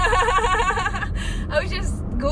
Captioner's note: laughs